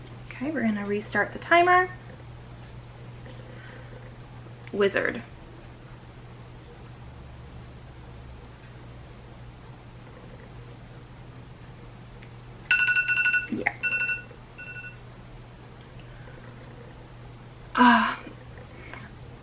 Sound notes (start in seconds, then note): 12.6 timer goes off